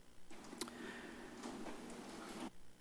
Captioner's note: clicks tongue